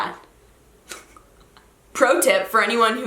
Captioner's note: laughs